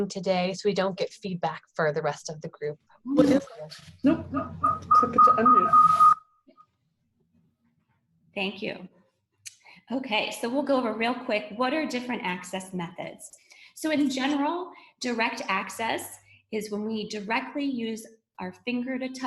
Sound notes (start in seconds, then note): 4.1 feedback